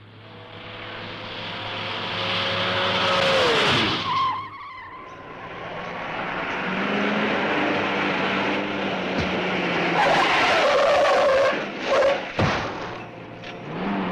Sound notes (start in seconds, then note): 0.1 engine revving; 4.1 tires screeching; 10.1 tires screeching